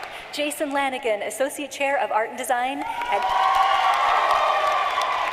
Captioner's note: cheering and applause